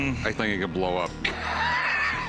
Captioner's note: laughing